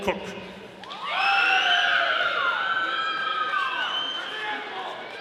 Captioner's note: audience applauding